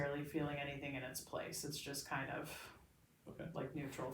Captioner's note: exhales